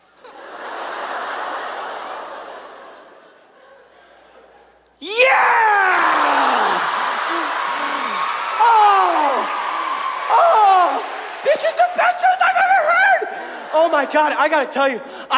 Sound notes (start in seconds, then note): 0.0 audience laughs; 6.4 audience laughs; 6.9 audience cheers